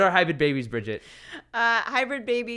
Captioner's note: laughs